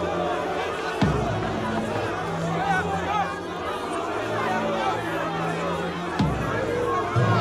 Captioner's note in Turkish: Kalabalık bağrışma sesleri